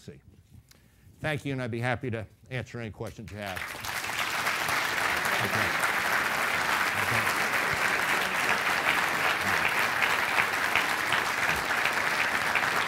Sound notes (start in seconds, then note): 4.2 applause